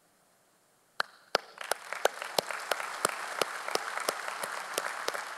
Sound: audience applauding

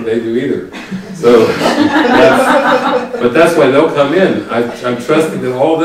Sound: laughing

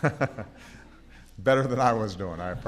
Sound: laughter

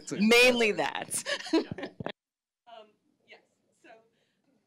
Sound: laughs

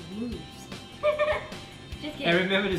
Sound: laughs

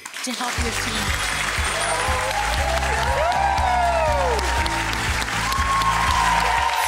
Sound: audience applauding and cheering drowns out speaker

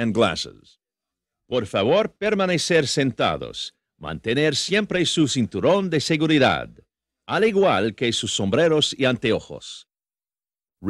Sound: in Spanish

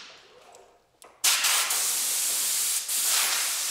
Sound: hiss

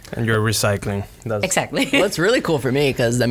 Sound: laughs

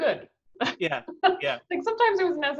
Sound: chuckles

